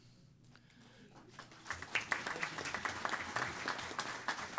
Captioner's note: applause